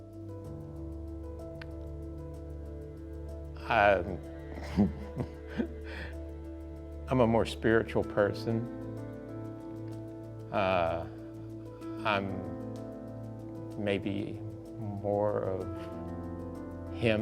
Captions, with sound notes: (gentle music continues) - (laughs) I'm a more spiritual person. I'm maybe more of him than I was before.